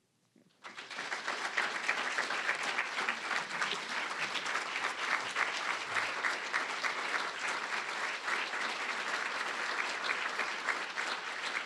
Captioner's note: applause